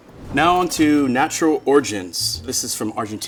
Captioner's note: bell dinging